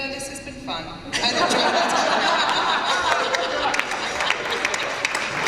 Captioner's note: laughter and applause